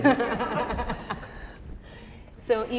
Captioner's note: chuckle